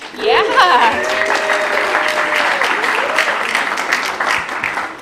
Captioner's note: applause